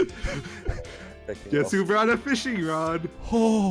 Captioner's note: laughing